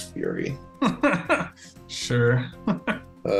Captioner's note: laughs